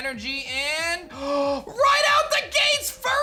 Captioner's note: gasps